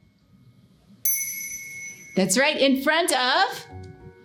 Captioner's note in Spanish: sonido de campana